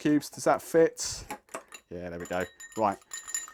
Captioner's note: ice clinking